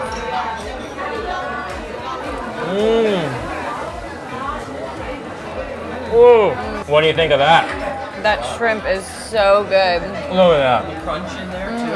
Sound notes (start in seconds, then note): 0.3 background chattering; 2.5 groans in delight